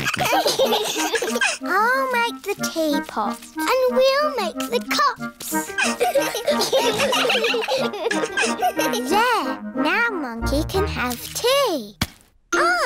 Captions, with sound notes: (ALL LAUGHING) I'll make the teapot. And we'll make the cups. (ALL GIGGLING) There. Now Monkey can have tea.